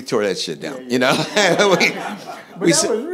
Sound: laughing

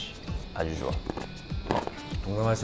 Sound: crunchy

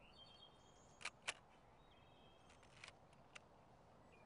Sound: shutter clicks

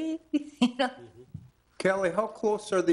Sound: giggles

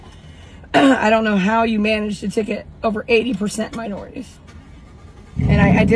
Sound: cough

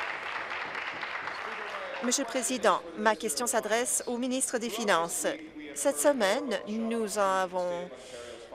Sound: applause

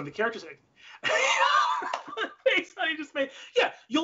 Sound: laughs

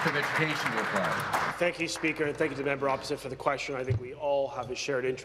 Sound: applause

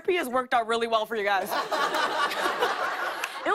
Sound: laughter

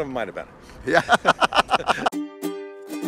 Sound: laughs; upbeat music

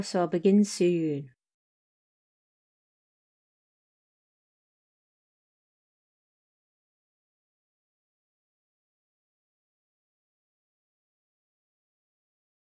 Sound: awkward silence

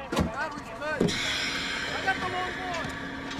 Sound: air hissing

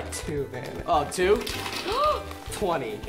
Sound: pouring; gasping

